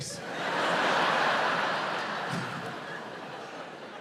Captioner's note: audience laughs